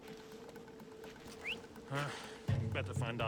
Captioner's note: whistle